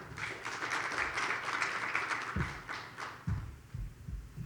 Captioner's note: audience applauds